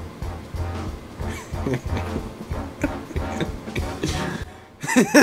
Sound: dramatic music; laughs

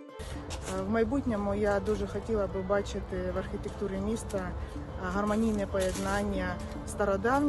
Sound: music quickens; speaking Ukrainian

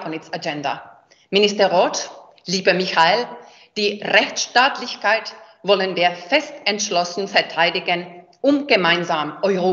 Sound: speaks in German

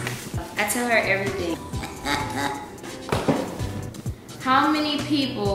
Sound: chuckles

